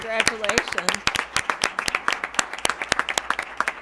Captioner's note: applause